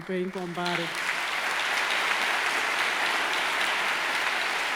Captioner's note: audience applauding